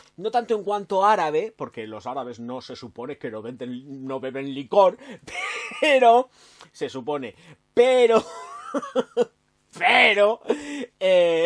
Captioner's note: laughs